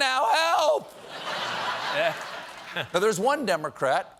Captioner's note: laughter